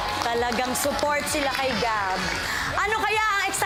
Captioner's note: applause, cheering